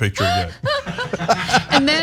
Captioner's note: laugh